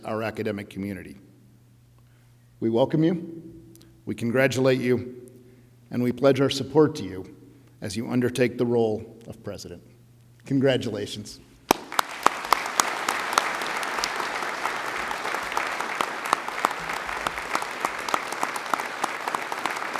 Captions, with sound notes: that characterized our academic community. We welcome you, we congratulate you and we pledge our support to you as you undertake the role of president, congratulations. (audience applauding)